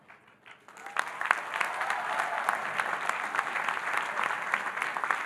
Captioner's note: audience applauding and cheering